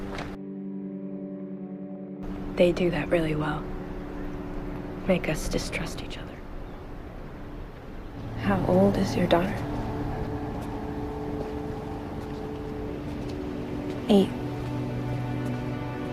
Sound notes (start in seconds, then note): 2.7 voiceover; 8.5 voiceover